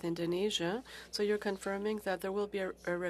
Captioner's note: speaking French